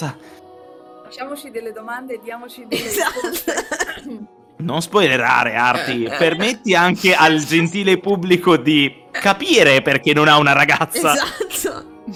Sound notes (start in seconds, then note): 2.7 cough